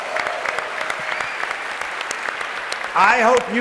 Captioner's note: applause